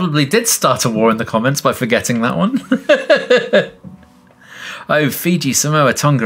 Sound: laughs

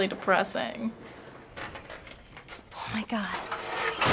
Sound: rungs scrape floor; ladder clatters

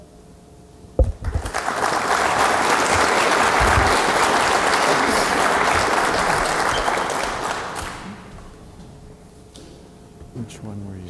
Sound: applause

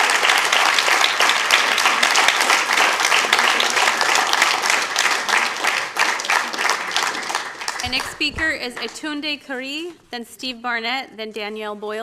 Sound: applause

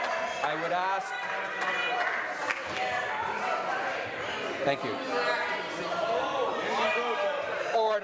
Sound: shouting

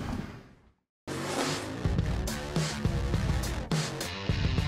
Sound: closing sound effects

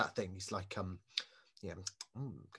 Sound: smacks lips

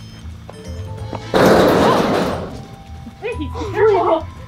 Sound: loud banging; laughing

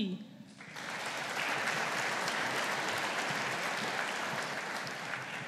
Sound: audience applauding

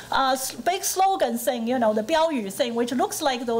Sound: foreign language

